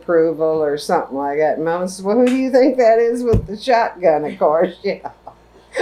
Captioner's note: laughter